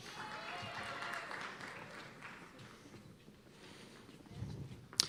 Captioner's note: cheers and applause